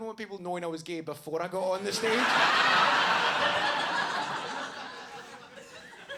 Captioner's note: audience laughing